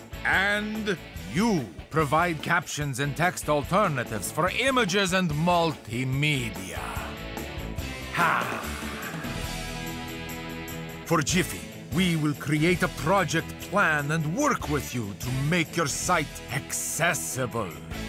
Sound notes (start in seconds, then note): none